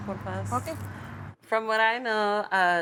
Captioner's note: foreign language